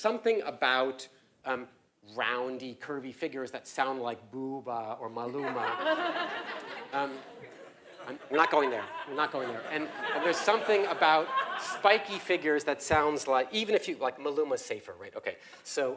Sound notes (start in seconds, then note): 5.4 laugh